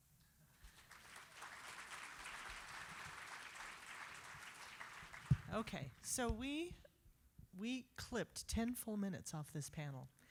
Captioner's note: applause